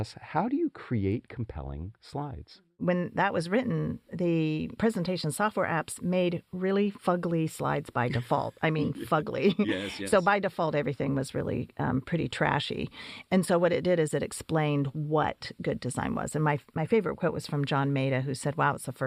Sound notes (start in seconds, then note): 8.0 laugh